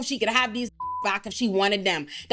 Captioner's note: beep